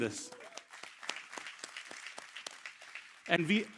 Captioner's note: cheers, applause